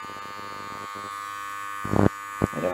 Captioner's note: interference